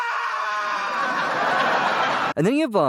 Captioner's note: audience laughs with his demise